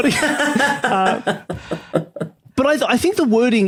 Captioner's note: laughs